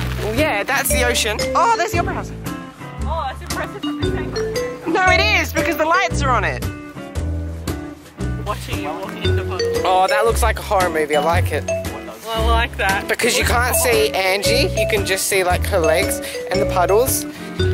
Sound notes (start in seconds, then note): 3.4 sarcastic; 12.1 mocking